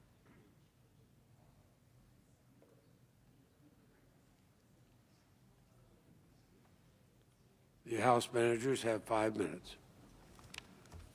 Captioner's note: silence